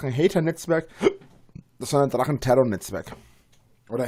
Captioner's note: hick